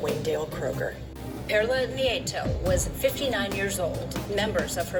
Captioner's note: on TV